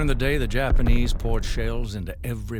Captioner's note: loud explosions